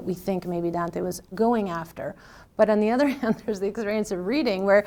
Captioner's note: laughs